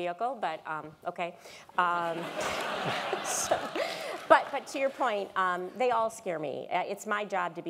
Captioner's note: laugh